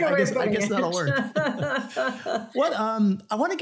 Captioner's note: laughter